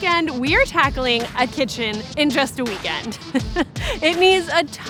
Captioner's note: laughs